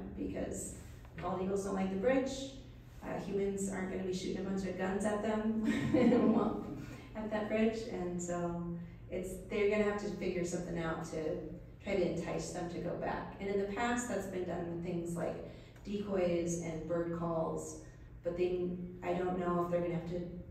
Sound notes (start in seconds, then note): 5.7 laughs